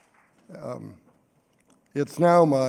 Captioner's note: applause